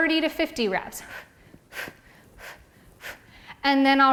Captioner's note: exhales loudly